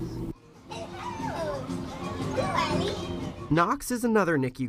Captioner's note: background chatter